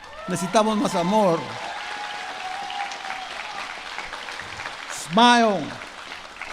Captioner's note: speaking spanish